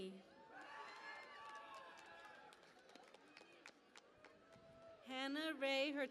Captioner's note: cheering and Applause